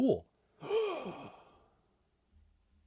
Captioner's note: gasp